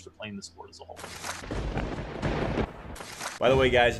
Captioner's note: lightning crack and thunder crash